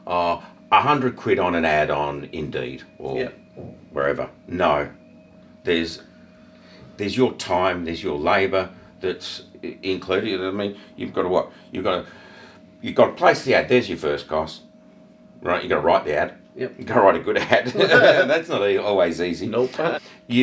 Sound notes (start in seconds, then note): 17.4 laughing